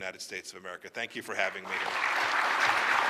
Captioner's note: applause